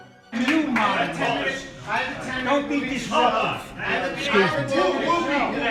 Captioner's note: yelling